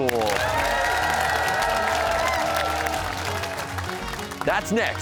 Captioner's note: cheers and applause